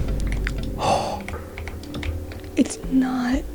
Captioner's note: ghasp